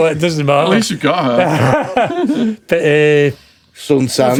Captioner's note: laughing